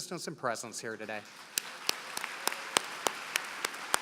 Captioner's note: applause